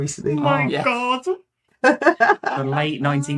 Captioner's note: laughing